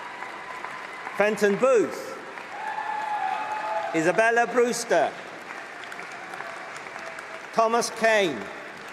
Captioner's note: applause